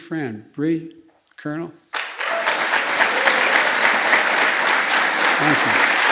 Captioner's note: applause